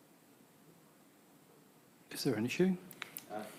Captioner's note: faint stirrings off-mike